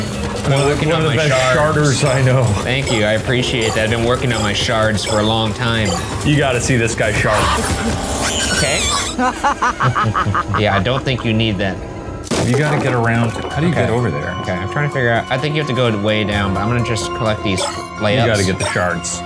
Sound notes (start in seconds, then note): 7.2 Murder Monkey screeching; 8.3 Bierce laughing; 9.9 chuckling